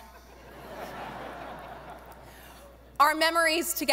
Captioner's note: audience laughing